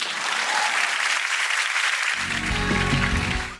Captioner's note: applause